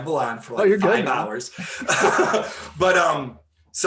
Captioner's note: laughing